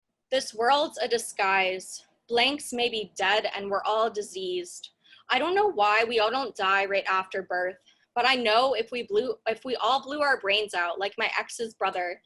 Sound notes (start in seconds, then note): none